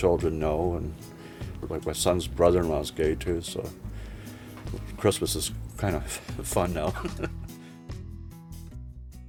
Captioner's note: laughs